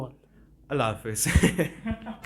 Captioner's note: laughing